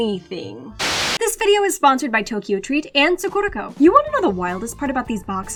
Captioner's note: static burst